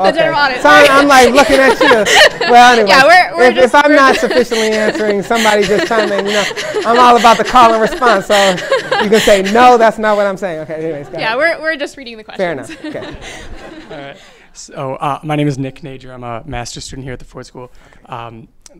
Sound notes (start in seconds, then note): 1.2 laughter